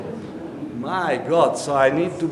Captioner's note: audience murmuring